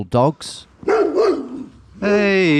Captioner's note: dogs barking